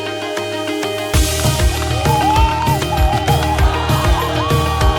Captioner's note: applause